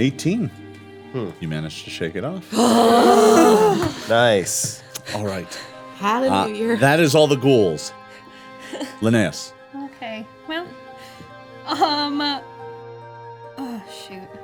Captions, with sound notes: - 18. You manage to shake it off. (groaning) - Nice. - All right. That is all the ghouls. Linneus. - Okay, well. Oh, shoot.